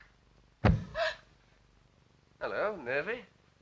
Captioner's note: gasps